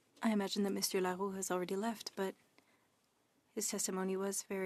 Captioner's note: speaking French